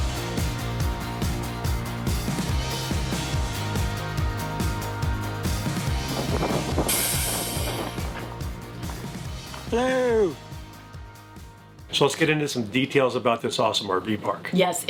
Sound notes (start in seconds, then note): 0.1 upbeat music; 7.3 air brake hissing